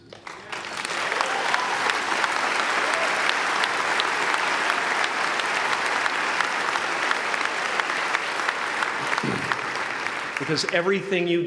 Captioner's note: applause